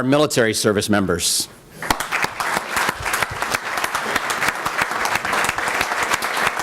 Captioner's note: applause